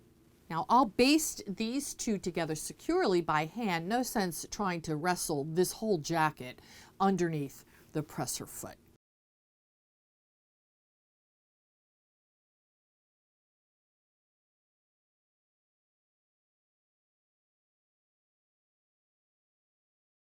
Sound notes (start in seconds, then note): 8.9 no Sound Present